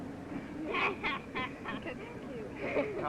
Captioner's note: girl laughing